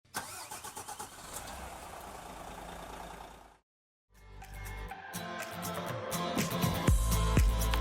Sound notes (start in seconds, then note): 0.2 bus engine throttles; 0.2 bus engine roaring; 4.2 happy upbeat music